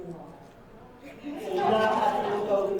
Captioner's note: audience laughing